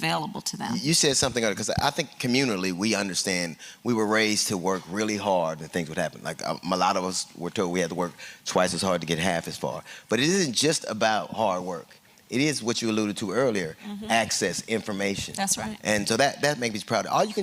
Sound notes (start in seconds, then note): none